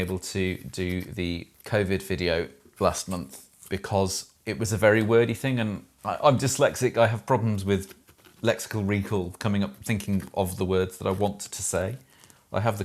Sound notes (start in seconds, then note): none